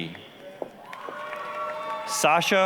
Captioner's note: applause, cheering